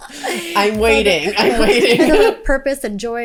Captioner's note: both laughing